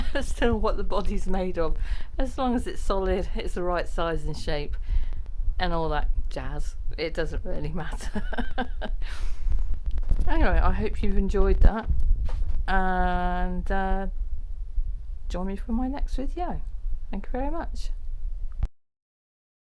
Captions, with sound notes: care that much, as to what the body's made of, as long as it's solid, it's the right size and shape, and all that......jazz! It doesn't really matter. *laughs* Anyway, I hope you've enjoyed that, and, er, join me for my next video! Thank you very much!